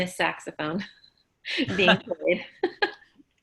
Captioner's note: laughs